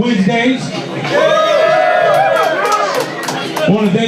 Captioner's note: crowd cheers